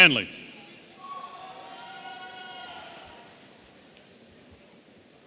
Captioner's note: audience cheering